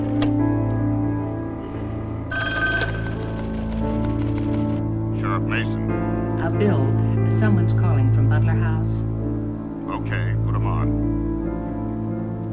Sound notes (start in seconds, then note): 2.2 phone ringing